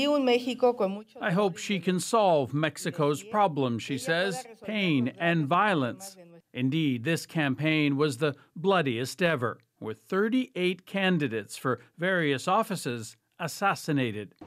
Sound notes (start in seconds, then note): 3.4 speaking spanish